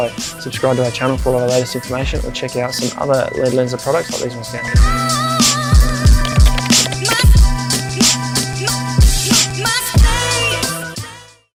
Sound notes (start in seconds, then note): 4.9 funky music; 5.3 clicks